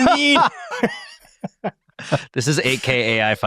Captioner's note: hosts laughing